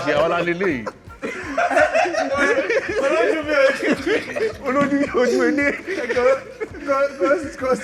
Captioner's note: everyone laughs